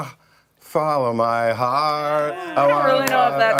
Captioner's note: laughter